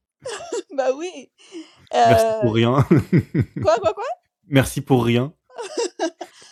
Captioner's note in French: rires